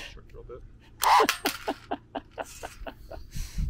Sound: laughing

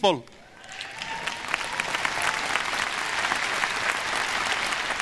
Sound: audience applause

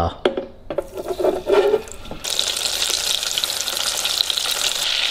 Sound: oil hissing

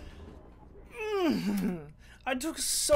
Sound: grunt of frustration

